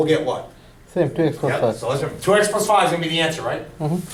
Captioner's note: voiceover